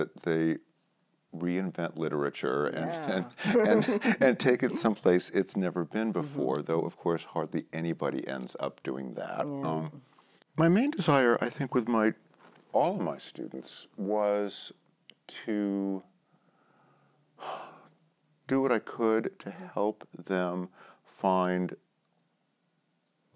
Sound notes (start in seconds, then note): 2.8 both laugh; 17.4 sighs